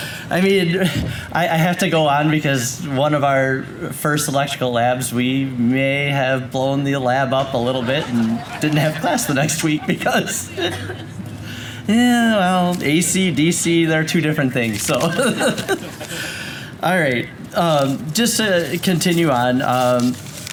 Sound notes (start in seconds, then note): 11.3 laughs